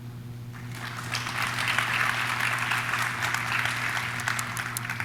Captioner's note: audience claps